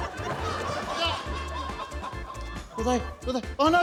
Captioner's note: exclaims